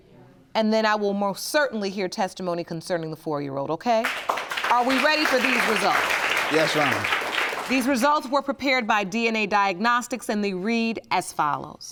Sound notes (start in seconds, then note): 4.0 audience applauding